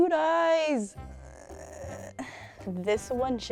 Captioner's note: groaning